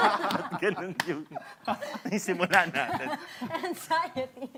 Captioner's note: laughter; laughs